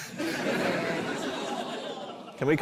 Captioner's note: laughter